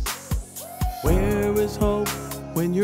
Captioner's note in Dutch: mensen juichen